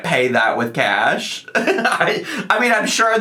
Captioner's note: laughing